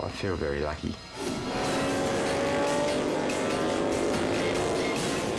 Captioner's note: engines rumbling